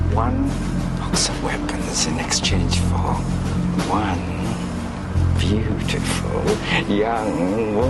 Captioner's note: смее се